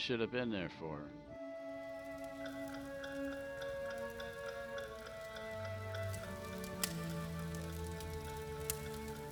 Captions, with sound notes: - I should've been there for her. (clock ticking) (gentle orchestral music)